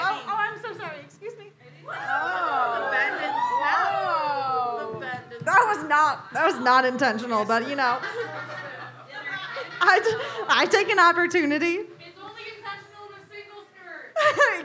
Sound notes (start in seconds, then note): 1.9 audience cheers